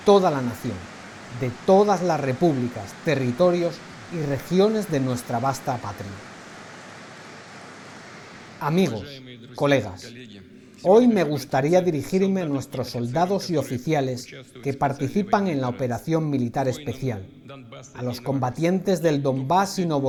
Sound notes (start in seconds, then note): 7.0 applause